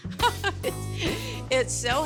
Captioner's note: giggling